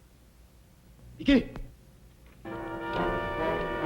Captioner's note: speaking japanese; suspenseful music